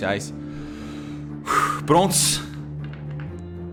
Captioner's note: sighs